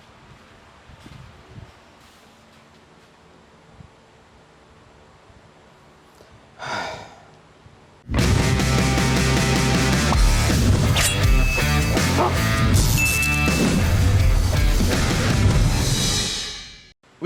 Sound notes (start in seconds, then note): 6.5 sighs; 8.1 intro music